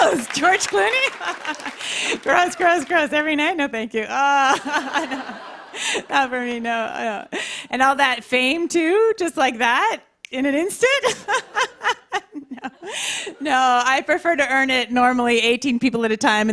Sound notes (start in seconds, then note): 4.4 laughter; 11.0 chuckles